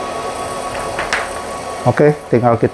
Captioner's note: PET film noise